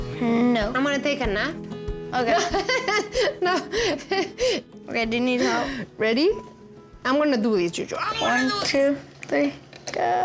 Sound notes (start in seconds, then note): 2.3 laughing